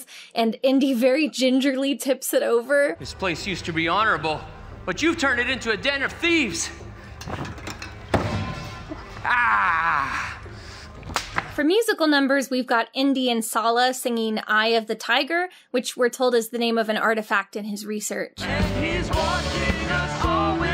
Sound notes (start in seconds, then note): 6.4 props clattering; 11.1 whip cracking